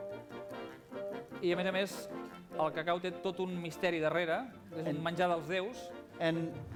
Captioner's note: non-english speech